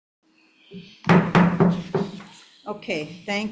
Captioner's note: gavel bangs